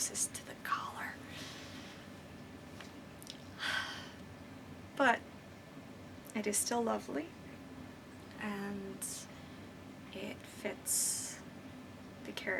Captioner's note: sigh